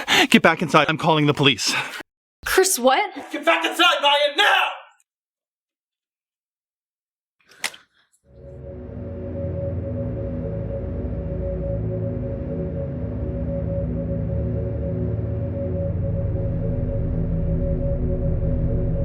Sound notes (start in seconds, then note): 7.3 steps in something wet; 9.0 foreboding music